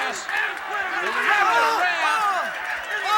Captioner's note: crowd chatter